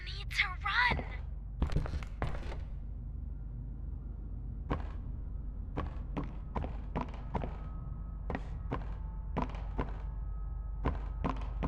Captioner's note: footsteps